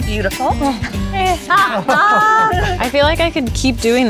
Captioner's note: laughs